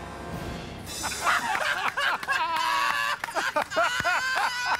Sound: laughter

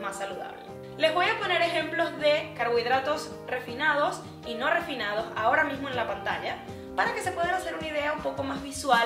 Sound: in Spanish

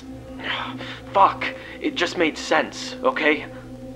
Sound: sighs

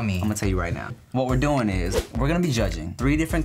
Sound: air whooshes

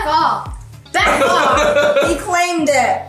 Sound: laughing

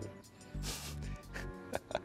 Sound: giggles

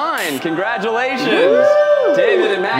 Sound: cheering

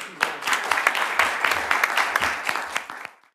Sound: applause

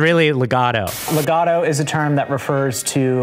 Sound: static buzzing

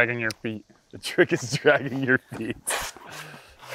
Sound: laughs

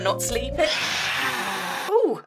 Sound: horrible phantom noise

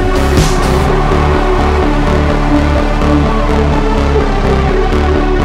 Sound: cheering

